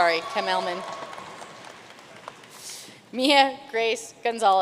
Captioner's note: audience cheering and applauding